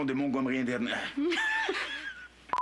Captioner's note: rires